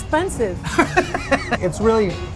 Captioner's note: laughter